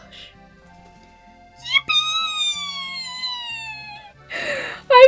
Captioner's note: squeals; gasps